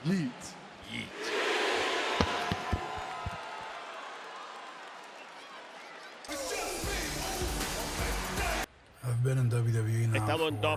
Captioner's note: applause